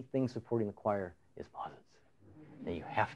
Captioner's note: whispering; laughter